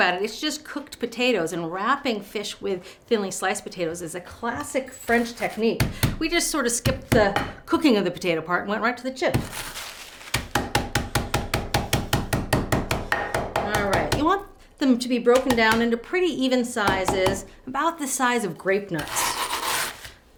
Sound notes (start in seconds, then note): 10.4 rolling pin banging